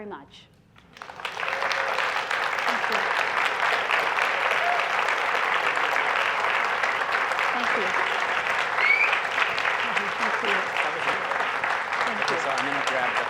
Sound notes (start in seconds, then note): 0.8 applause